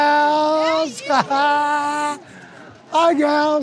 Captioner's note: laughing joyfully